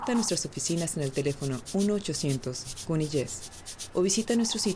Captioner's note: none